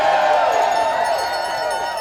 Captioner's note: audience cheering